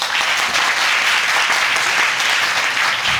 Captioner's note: audience applauding